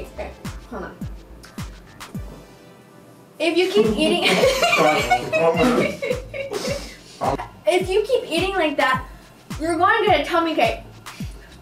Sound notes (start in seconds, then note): 4.0 laughs